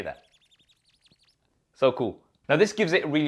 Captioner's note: squeaking